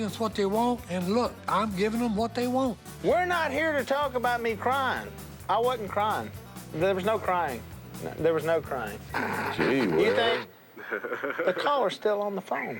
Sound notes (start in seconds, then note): 9.1 laughs; 10.5 on phone